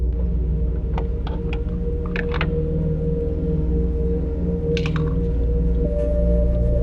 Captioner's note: fuel tank door clattering